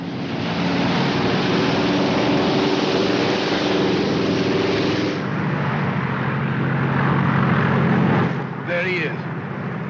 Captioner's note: aircraft roars